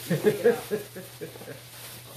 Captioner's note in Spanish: Risas